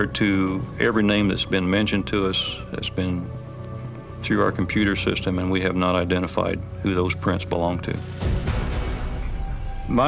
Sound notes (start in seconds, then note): none